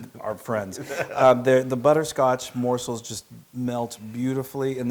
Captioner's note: laugh